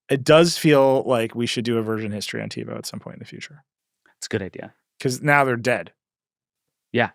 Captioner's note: none